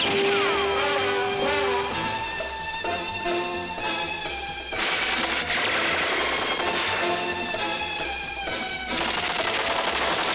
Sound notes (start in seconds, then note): 4.6 rapid gunfire